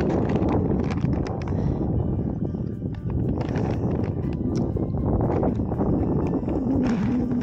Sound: strong wind & busy music

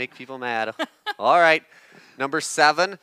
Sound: laughs

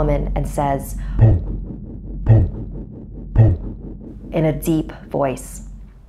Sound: thumping noise

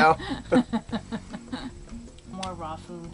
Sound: laughing

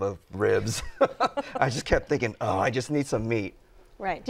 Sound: laughs

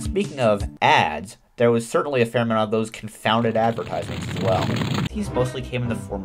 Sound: another angry sound

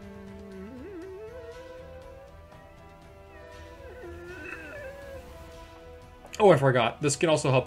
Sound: deflating balloon sounds

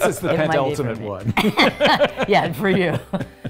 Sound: laugh

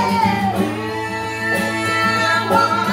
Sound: building vocalizations

